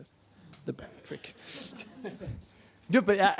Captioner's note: laughter